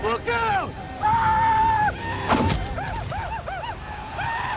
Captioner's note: commanche yells